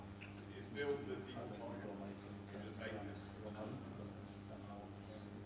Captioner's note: man speaks softly